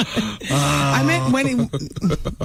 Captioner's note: laughing